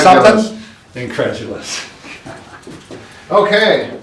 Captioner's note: laughs